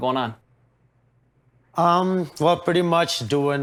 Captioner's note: none